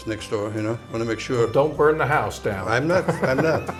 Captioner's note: laughs